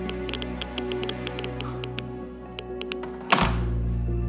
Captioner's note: scoffing